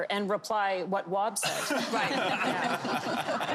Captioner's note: laughter